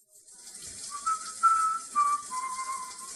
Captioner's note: water running; whistles to himself